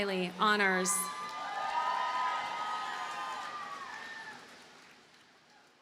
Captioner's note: audience cheers and applauds